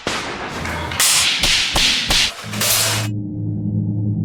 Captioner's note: weapons clattering; soft music